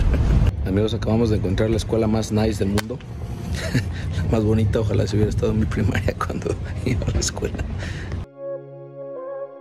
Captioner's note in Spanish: risas; risas